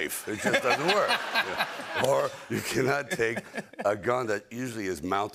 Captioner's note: laughter